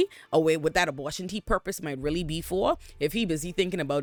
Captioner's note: none